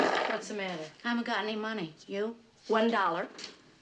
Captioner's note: none